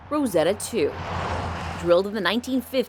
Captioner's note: car whooshing